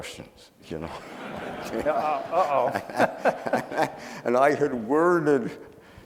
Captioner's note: audience laughing